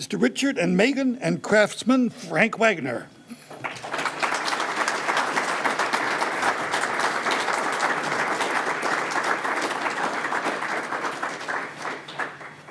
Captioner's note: applause